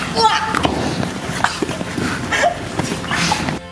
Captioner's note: grunting